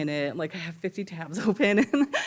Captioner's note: chuckles